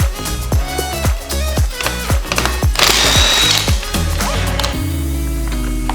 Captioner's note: music and wrench motor whirring sound